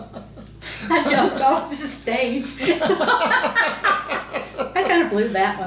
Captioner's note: laughs